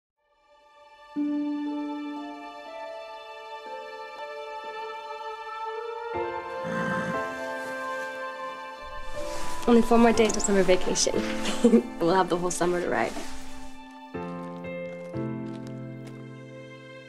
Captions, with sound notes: (gentle music) (horse nickers) - Only four more days 'til summer vacation. We'll have the whole summer to ride.